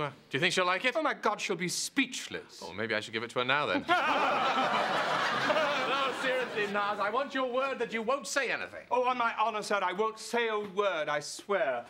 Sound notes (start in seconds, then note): 3.8 laughing